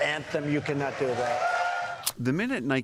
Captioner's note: cheering and applause